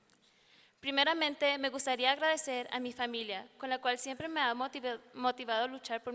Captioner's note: speaking in foreign language